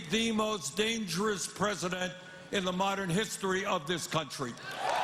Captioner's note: cheers and applause